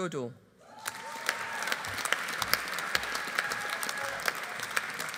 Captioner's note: audience applauding